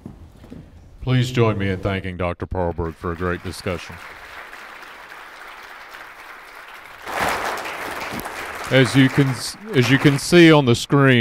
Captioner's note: applause